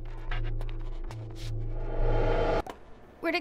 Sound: time start sound

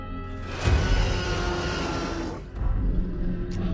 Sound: T-Rex roaring; suspenseful music

